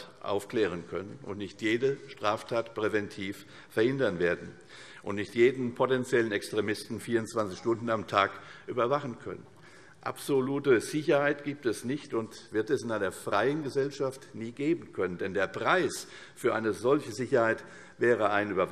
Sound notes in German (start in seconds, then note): none